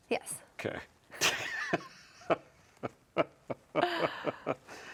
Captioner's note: laughing